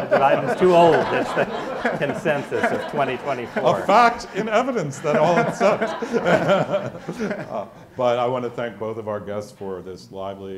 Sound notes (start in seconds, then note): 1.3 audience laughs; 7.2 laughs